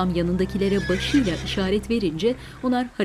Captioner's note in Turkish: At kişneme sesi